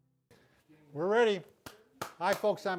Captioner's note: claps